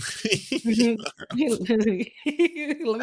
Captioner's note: laughter